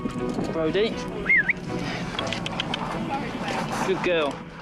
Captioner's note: whistling and clicking tongue